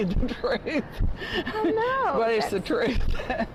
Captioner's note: laughter